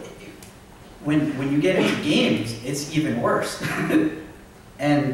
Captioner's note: laughs